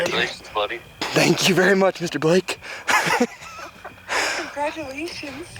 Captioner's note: laughs